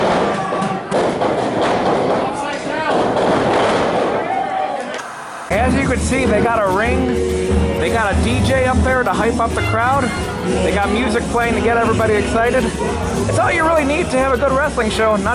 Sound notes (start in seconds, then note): 1.6 crowd screaming